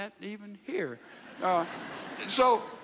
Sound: audience laughs

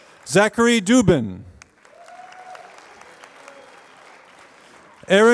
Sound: applause; applause

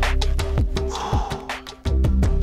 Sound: sigh

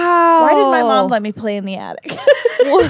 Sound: laughs

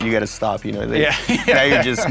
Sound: laughs

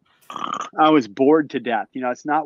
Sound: snorts

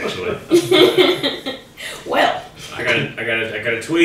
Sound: laughs

